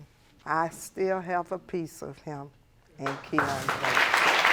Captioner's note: audience applauding